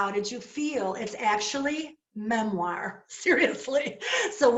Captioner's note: laughter